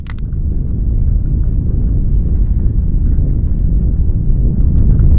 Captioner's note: a sudden loud rumbling and shaking